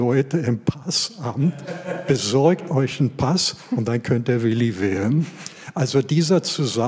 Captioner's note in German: lachen